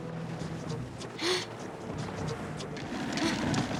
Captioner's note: gasps